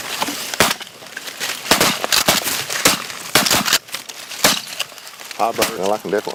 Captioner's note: gun shots